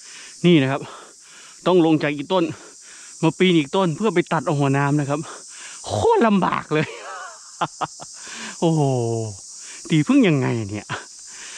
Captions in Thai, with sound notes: นี่นะครับ ต้องลงจากอีกต้น มาปีนอีกต้น เพื่อไปตัดเอาหัวน้ำนะครับ โคตรลำบากเลย [หัวเราะ] โอ้โห่ ตีผึ้งยังไงเนี้ย